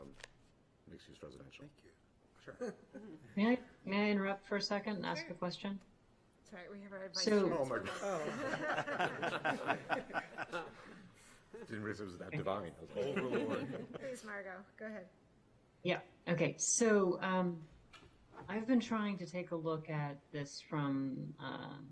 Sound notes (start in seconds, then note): 10.7 laughter